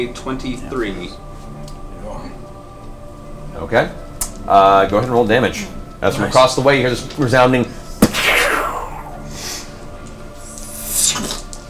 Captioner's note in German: Gewehrschuss